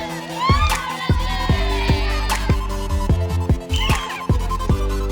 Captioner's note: cheering